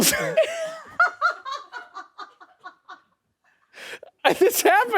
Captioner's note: laughs